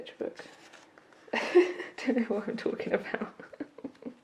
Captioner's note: laughs